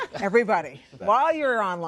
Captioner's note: laughter